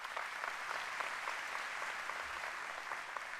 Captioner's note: applause